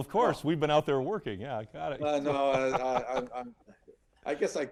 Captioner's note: laughs